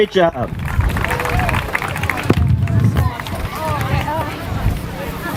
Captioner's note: applause